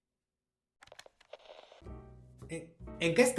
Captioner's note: Static